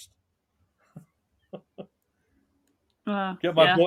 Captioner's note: laughing